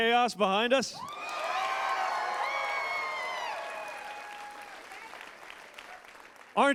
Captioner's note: crowd cheers